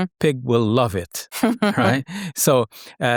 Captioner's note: laughing